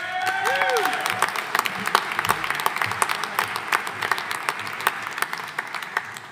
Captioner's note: audience cheering; audience applauding